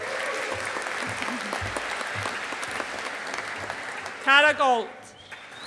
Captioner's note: audience applauding